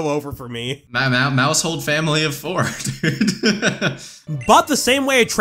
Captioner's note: laughs